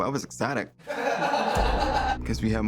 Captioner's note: inmates laugh